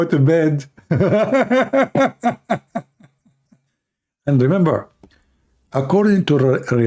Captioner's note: Ketawa